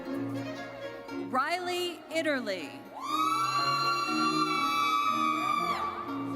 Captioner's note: audience cheers